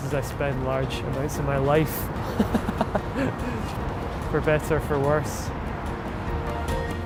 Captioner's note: laughs